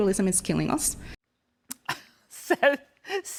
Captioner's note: laughter